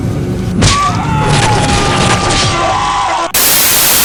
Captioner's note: Osborne yells; flesh splatting; static crackling